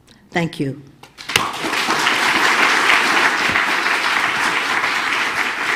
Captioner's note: audience applauding